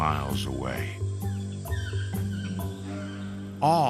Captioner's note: birds calling